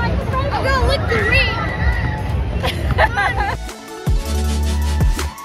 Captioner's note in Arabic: يضحك; موسيقى مبهجة